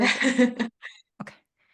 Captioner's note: laughing